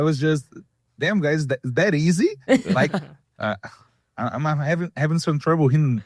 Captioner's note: laughs